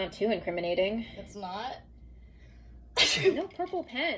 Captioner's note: sneezes